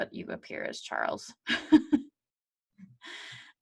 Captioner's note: chuckles